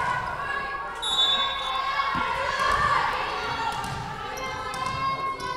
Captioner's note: whistle blowing